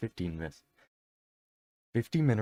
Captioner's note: deep breath